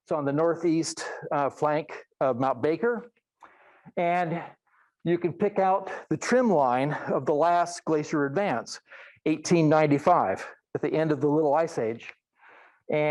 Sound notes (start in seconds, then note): none